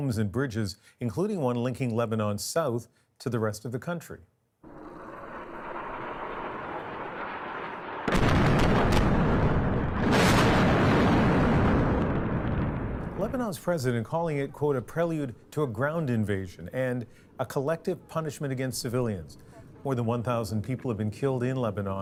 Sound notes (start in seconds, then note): 7.8 bombing